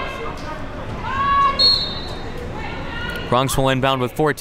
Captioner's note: whistle blows